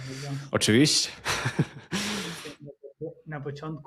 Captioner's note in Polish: śmiech